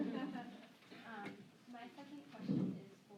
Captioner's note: laughter